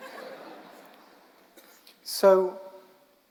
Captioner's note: audience laughing